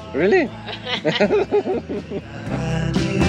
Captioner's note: laughing